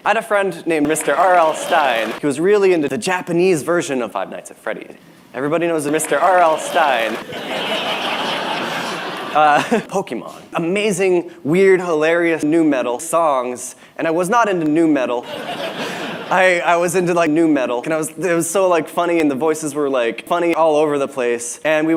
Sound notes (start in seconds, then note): 7.2 laughter; 9.4 chuckles; 15.2 laughter